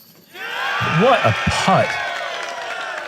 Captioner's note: applause